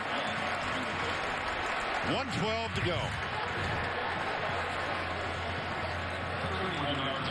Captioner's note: cheers and applause